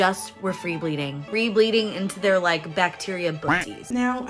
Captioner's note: quack sound